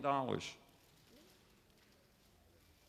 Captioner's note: none